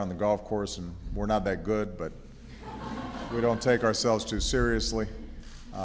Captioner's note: laughter